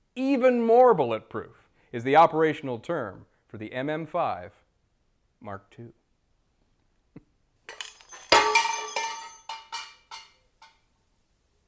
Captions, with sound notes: Even more bulletproof is the operational term for the MM5 Mark II. (metal clanging)